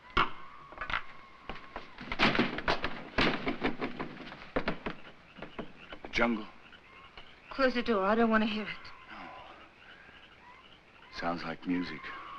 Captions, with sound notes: (windows bang) - The jungle. - Close the door, I don't want to hear it. - No. Sounds like music.